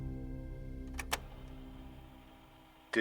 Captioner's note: tape recorder clicks